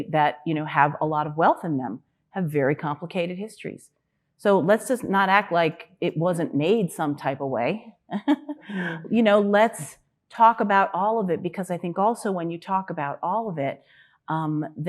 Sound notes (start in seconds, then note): 8.1 chuckling